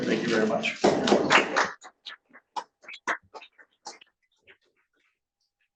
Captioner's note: attendants applauding